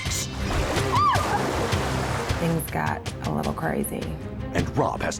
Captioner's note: screaming